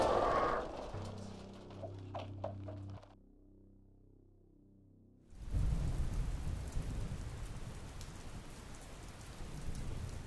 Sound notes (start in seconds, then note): 5.4 rain splatters